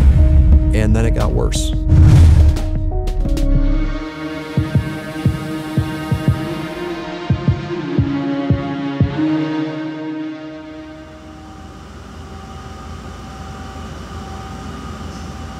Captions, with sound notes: And then it got worse. (gusting) (dramatic music)